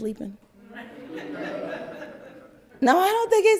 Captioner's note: crowd laugther